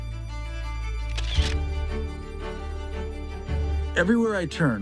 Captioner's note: lively music; camera flashing